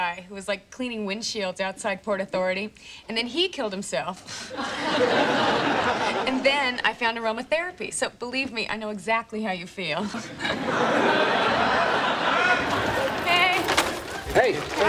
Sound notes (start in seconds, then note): 4.3 background laughter; 10.0 background laughter